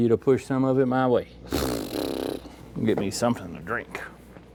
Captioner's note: farting